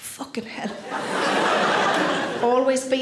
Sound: audience laughs

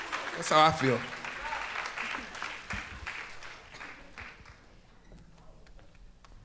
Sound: audience applauds; audience applauds

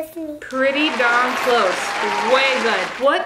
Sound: audience applauding

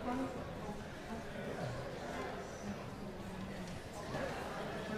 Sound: congregation chattering

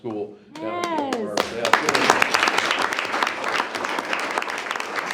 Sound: group applauds and cheers

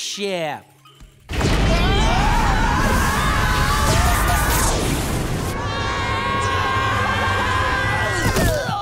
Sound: screaming

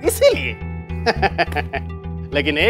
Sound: laughs

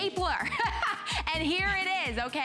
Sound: laughter

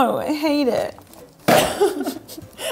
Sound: dropping sound

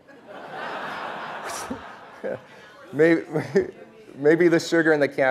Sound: laughing

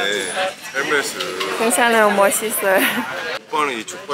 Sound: laughing; laughing

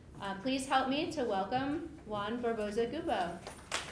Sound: applause

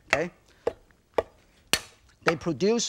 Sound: knife clinking; knife thudding

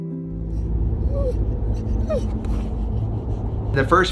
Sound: Winston whines

